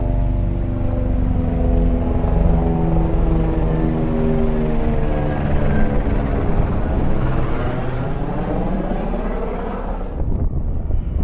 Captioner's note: helicopter thrusting around